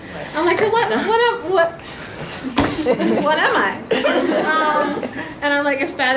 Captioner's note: audience laughs